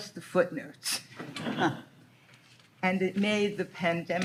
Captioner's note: all laughing